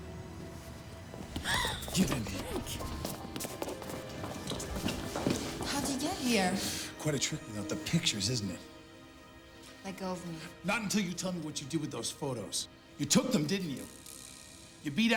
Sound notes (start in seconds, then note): 1.4 Catherine gasps